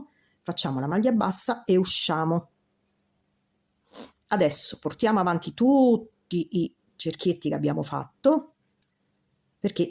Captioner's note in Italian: sbuffare